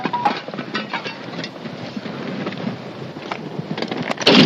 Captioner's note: gunshots